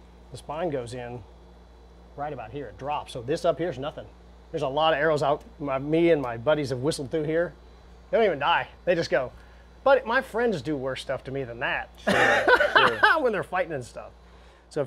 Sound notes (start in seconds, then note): 12.0 laughs